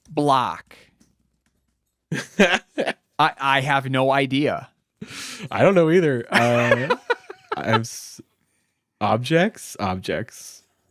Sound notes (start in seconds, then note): 2.1 laughing